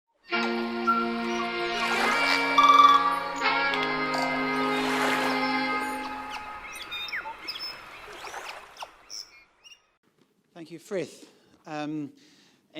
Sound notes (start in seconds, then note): 0.2 relaxed music playing; 0.8 water rushing; 5.5 birds chirping